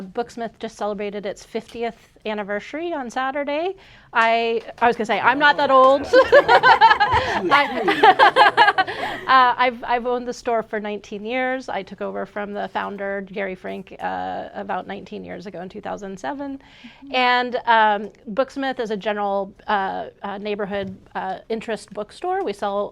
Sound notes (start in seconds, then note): 8.9 laughs